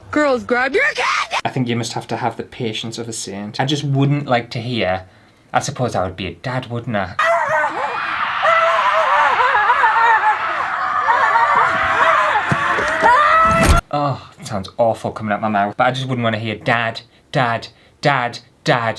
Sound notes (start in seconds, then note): 7.2 screaming